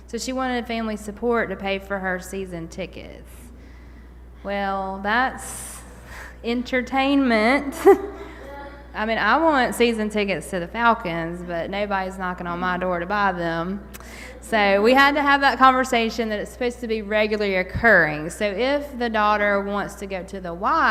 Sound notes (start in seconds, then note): 7.7 laughter